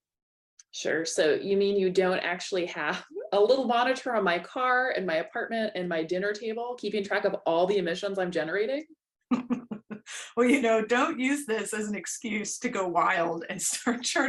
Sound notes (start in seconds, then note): 9.3 laughter